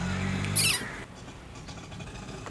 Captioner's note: rickshaw calling sound